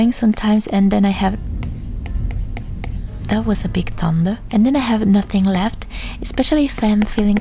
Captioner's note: thunder sound